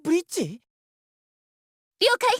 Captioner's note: silence